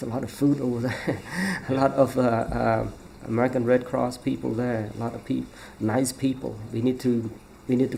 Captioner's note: laughs